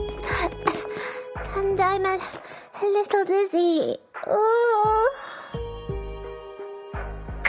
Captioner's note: cough